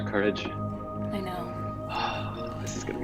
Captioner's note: sighs